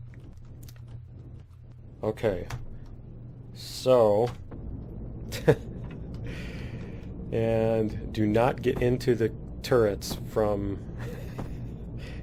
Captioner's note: laughs